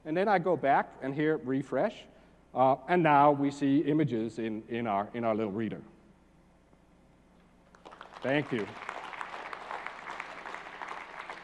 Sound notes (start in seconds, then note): 7.7 applause